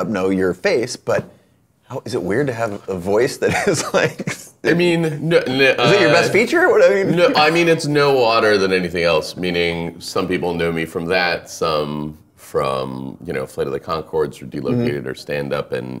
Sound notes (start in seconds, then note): 3.4 laughing